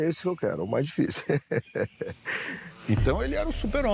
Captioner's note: laugh